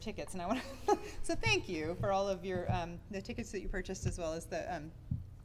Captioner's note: giggles